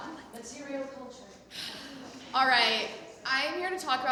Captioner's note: sighs